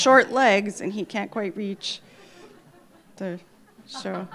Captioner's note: laughter